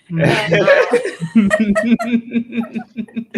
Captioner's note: laughing